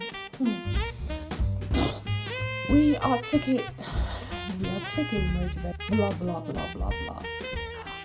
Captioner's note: blows raspberry